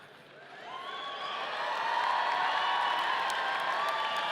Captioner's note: audience cheering